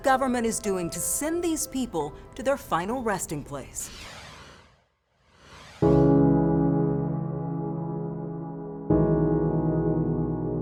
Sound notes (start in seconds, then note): 3.8 logo whooshing; 5.8 somber music